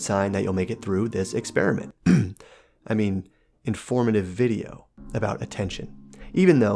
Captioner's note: cough